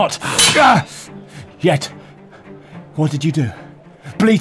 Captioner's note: swords Clash